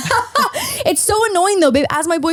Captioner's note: laughs